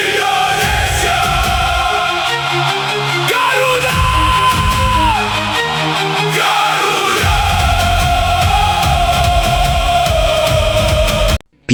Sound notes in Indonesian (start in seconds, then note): 5.0 berteriak